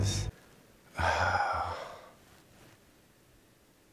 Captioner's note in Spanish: suspira